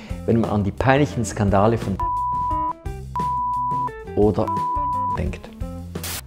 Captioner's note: beep